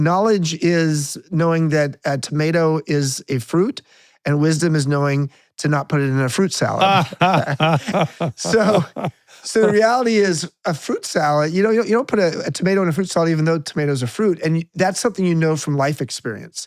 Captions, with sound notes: knowledge is knowing that a tomato is a fruit and wisdom is knowing to not put it in a fruit salad. (laughing) So the reality is a fruit salad, you don't put a tomato in a fruit salad, even though tomatoes are fruit and that's something you know from life experience.